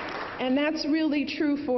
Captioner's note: applause